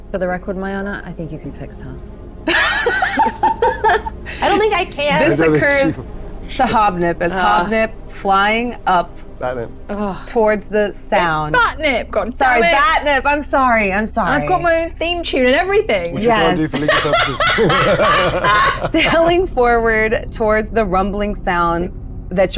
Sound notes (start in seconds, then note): 2.4 laughs; 18.1 laughs